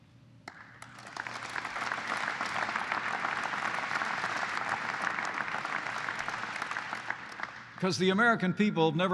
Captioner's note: applause